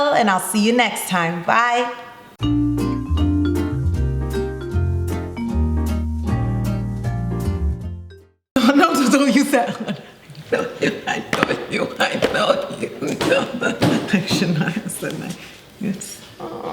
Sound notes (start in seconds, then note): 2.4 playful upbeat music; 11.4 laughs